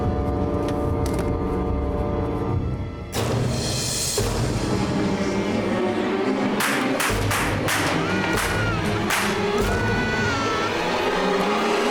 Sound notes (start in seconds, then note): 6.6 gun firing; 7.9 baby crying